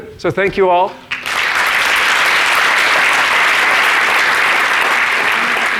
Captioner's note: audience applauding